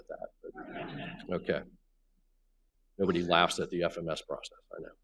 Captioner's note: laughs